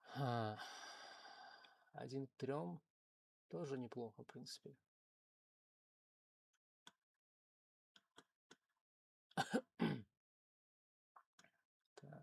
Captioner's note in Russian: вздыхает